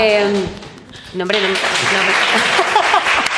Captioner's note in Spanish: Aplausos